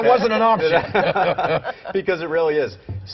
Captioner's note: laughter